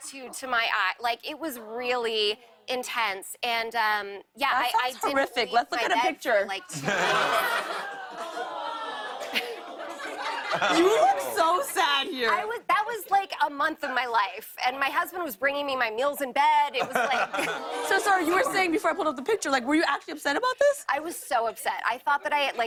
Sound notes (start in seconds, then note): 6.6 laughter; 6.7 audience groans; 17.3 audience "Awws"